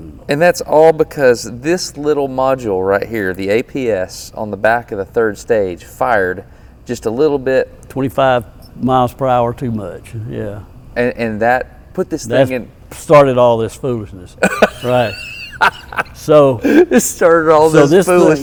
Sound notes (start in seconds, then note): 14.9 wheezes in laughter